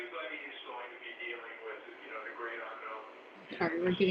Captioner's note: audio interference